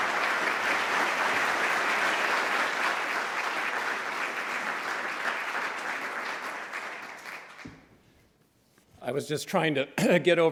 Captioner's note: applause